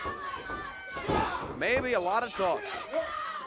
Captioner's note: crowd chatter